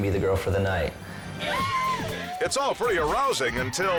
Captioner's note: crowd cheers